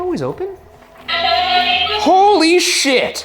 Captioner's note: Boo Buddy indistinctly chattering